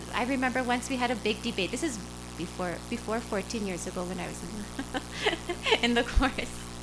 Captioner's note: laughter